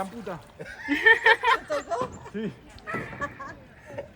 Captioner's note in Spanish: risas